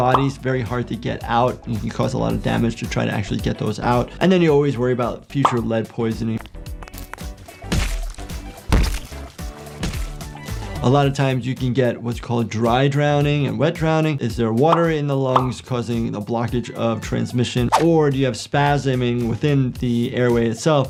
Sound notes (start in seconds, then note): 6.4 water squelches